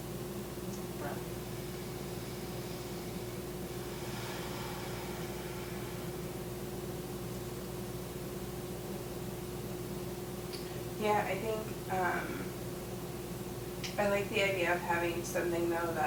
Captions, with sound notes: Breath. (blows out air) - Yeah, I think I like the idea of something though,